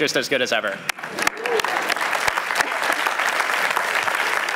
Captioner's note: applause